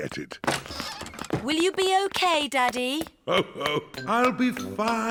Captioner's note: laughs